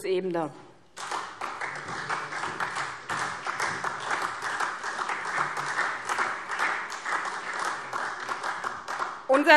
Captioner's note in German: Beifall SPD